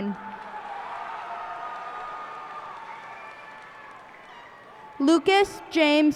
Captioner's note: cheers and applause